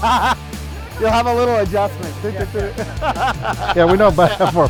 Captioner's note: laughs